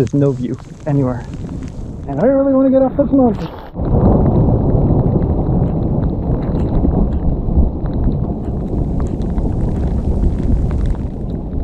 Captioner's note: thunder